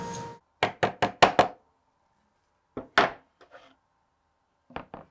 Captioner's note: hammer tapping